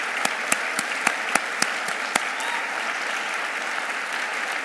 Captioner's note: audience applauding